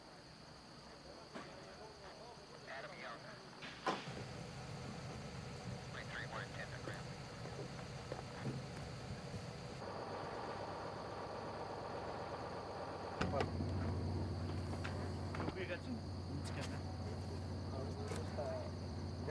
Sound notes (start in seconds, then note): 4.0 walkie talkie chattering